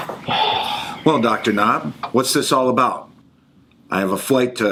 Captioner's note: sighs